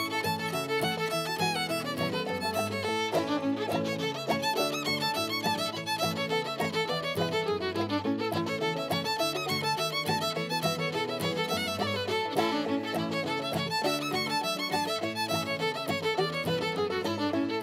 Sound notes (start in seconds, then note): none